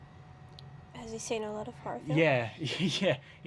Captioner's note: laughing